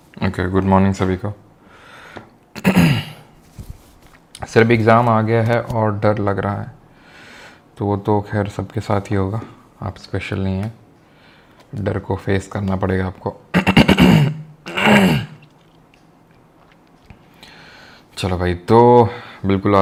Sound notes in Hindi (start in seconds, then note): 2.5 गला साफ़ करने की आवाज़; 13.5 खांसने की आवाज़; 14.6 गला साफ़ करने की आवाज़